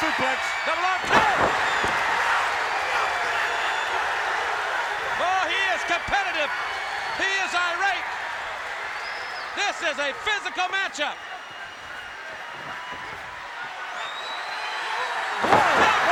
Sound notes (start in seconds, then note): 1.9 crowd cheering; 11.3 crowd cheering